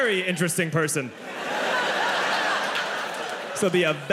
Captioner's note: audience laughing